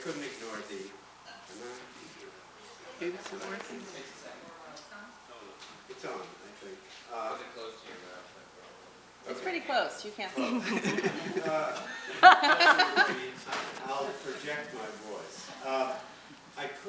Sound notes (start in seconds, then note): 1.4 speaking off microphone; 3.1 voiceover; 10.4 laughter drowns out speaker; 11.8 laughter drowning out speaker